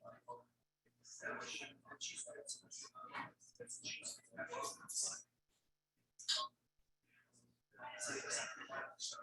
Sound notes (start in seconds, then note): 3.2 people chattering indistinctly continues